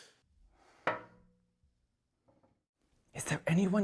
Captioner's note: clank